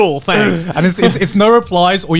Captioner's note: all laughing